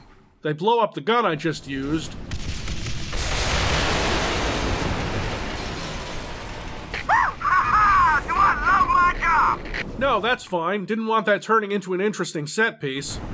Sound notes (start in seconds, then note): 6.7 RHODES over the radio